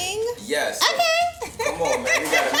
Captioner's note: laughs